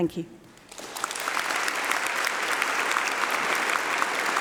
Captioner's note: applause